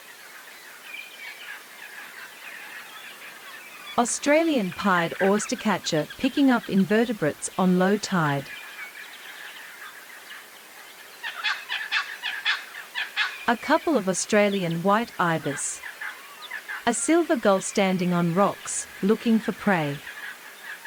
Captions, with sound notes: Australian pied oystercatcher picking up invertebrates on low tide. [chirping birds] A couple of Australian white ibis. A silver gal standing on rocks, looking for prey.